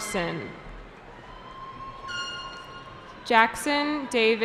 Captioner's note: cheering